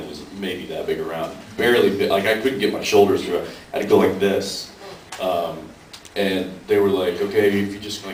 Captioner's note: none